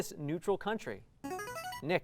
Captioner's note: ringing